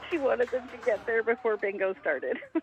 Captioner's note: laughter